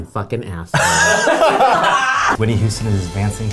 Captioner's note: laughing